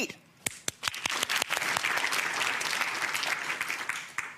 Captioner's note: crowd clapping